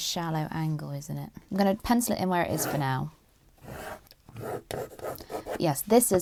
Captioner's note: pencil scratches